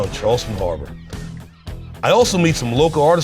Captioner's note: gulls cawing happily